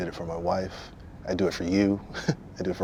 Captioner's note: chuckles